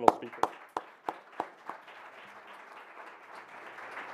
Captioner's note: audience applauds